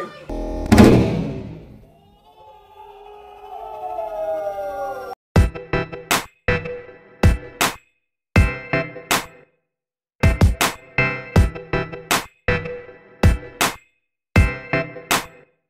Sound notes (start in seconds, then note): 0.6 slow motion explosion; 2.3 slow motion yelling; 5.5 energetic beat